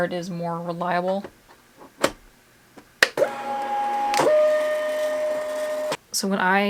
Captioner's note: printer clicks shut and whirs